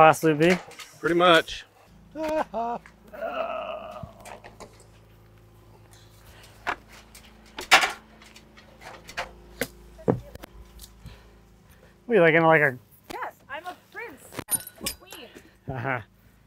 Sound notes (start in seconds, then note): 2.0 laughs